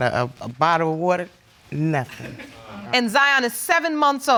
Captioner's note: audience laughing